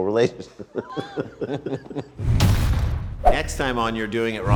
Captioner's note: laughing